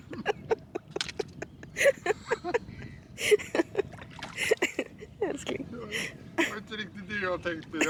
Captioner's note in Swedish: Skratt